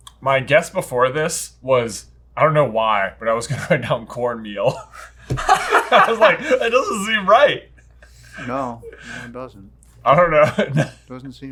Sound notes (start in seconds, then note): 4.8 laughing